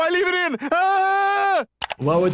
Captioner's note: Stewey yells